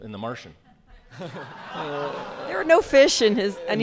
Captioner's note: audience laughs